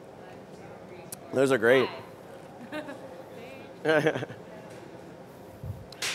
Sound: laughter

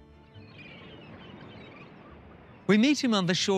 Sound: birds squawking

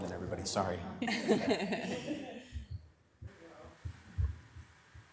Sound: members laughing

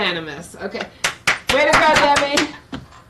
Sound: clapping

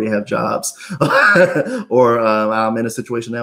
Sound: laughs

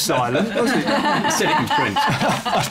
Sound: laughter

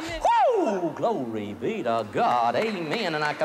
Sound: applause

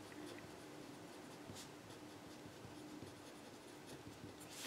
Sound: pen scribbles

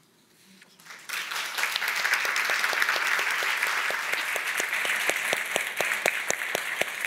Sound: all applauding

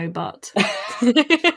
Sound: laughing

